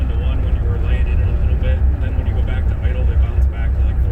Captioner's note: car engine roaring